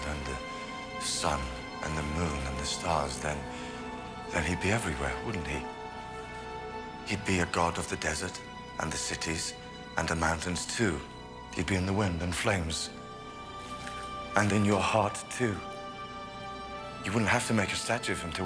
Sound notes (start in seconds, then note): none